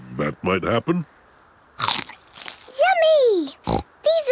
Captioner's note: crunch!; snorting